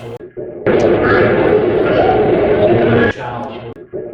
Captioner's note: radio voice